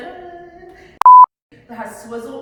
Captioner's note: beep